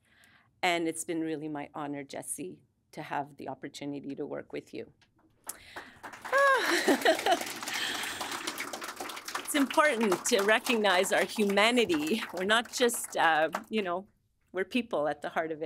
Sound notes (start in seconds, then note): 5.5 audience applauding